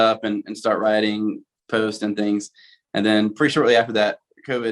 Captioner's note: none